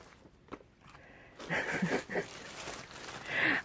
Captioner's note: laughter